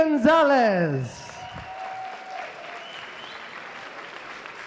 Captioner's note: applause